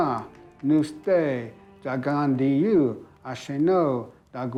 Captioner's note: speaking Cherokee